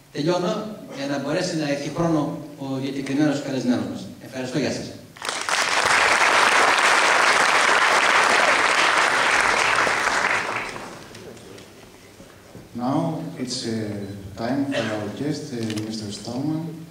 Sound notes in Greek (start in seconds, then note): 5.2 Χειροκροτήματα από το ακροατήριο